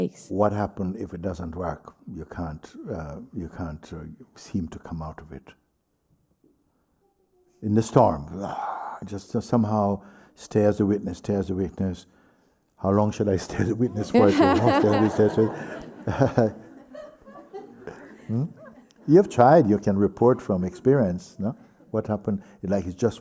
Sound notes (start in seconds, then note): 16.7 laughs; 17.2 laughter